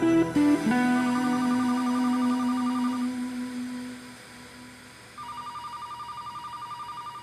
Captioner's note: somber music; static buzzing; phone ringing